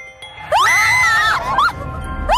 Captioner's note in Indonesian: Berteriak